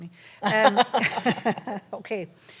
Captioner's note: laughter